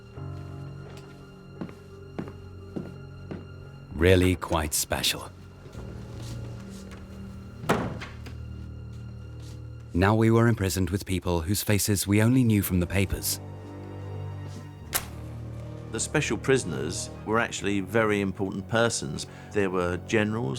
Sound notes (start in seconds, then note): 0.0 solemn music; 0.2 footsteps clack; 7.6 door clacks